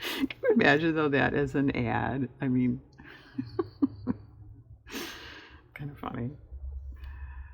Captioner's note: laughs